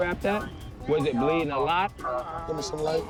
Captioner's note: moans